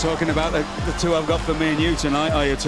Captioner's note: crowd cheering